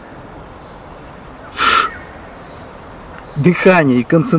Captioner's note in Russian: звук выдоха